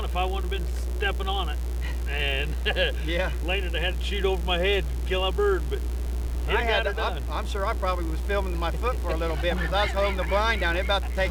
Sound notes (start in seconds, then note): 1.8 laugh; 4.0 mumbling